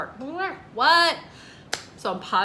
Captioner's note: hands clapping